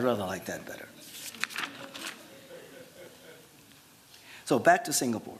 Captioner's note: laughter